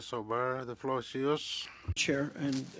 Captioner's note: speaking French